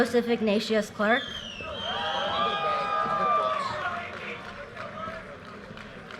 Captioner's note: audience cheers and applause